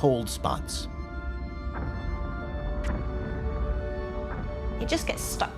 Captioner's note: meteorites crashing